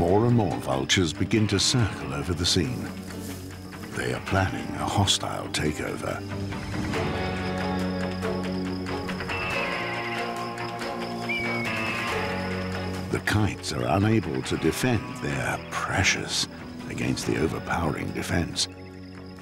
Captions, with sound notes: More and more vultures begin to circle over the scene. They are planning a hostile takeover. [birds screeching] The kites are unable to defend their precious against the overpowering defense.